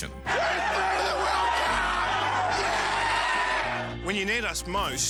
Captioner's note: screams